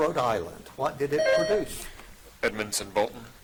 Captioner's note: buzzer dings